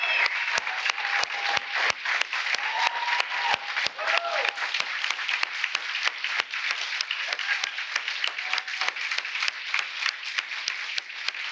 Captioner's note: applause